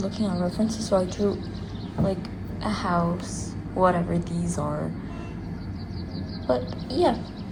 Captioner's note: truck honking